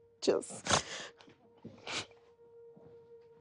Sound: sniffs

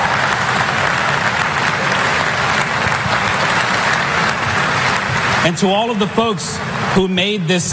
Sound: applause

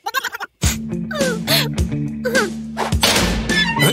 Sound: sniffling

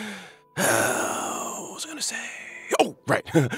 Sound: sigh

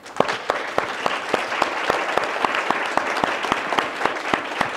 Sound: audience applauding

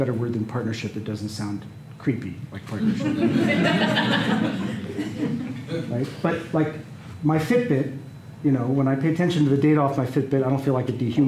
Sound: laughter

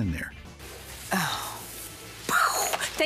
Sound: imitates explosion

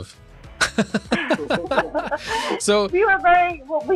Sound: both laughing

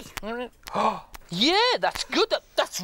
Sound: gasps

